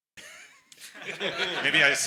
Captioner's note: everyone laughs